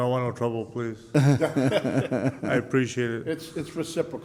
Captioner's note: laughing